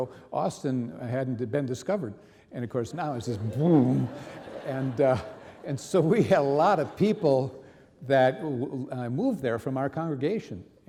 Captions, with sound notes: Austin hadn't been discovered. And, of course, now, it's "boom." (audience laughing) And so we had a lot of people that moved there from our congregation.